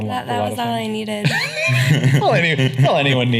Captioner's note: laughing